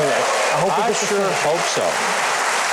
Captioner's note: audience cheering